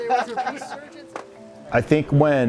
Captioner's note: laughing